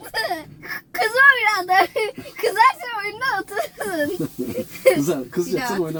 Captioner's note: laughter